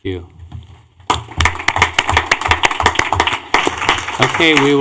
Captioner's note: clapping